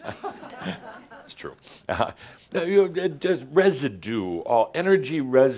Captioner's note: some chuckles